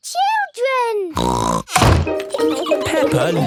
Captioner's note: snorts